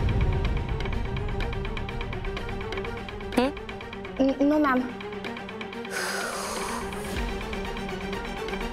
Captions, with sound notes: - This? - No, ma'am. [exhales]